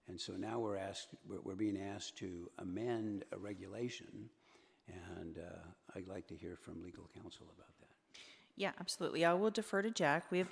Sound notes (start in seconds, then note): none